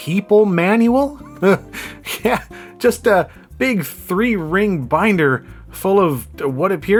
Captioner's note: laughs